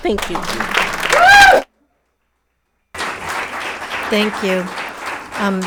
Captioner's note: audience clapping hands